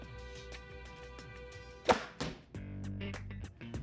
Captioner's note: thwack